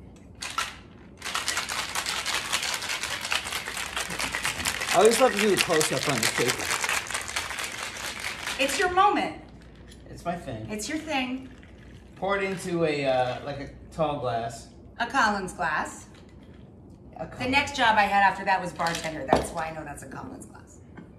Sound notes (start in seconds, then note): 0.1 rattling; 11.4 pouring